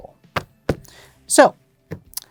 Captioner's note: thumps cards